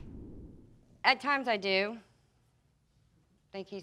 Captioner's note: none